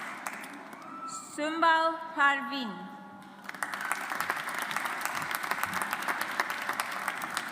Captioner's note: audience applauds